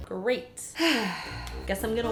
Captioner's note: sigh